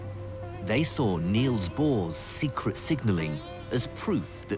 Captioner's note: voiceover